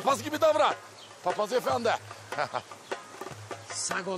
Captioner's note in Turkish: Gülüyor